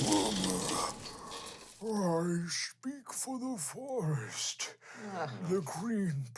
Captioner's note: groans